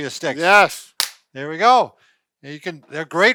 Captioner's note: sticks clacking together